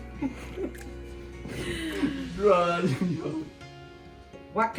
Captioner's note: laughs